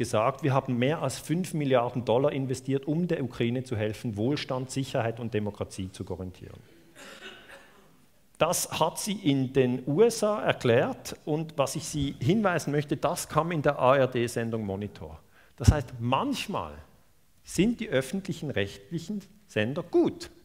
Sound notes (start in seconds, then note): 12.5 German TV broadcast